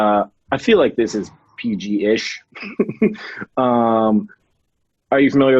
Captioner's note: chuckles